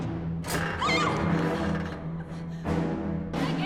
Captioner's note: female scream